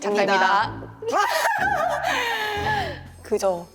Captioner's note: cracking up